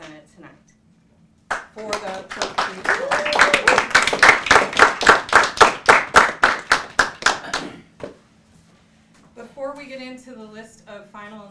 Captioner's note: applause